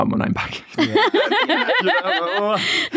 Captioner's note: everyone laughing